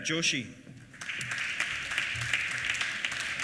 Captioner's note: applause